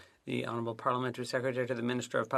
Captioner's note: speaking FRENCH